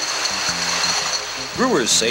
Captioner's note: bottles rattle